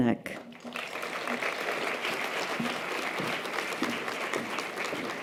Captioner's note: audience applause